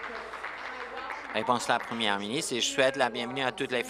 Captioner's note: applause